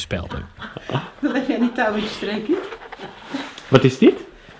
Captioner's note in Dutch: lachen